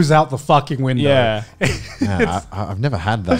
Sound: laughs

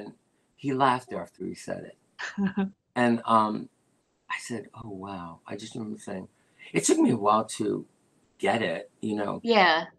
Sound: laughter

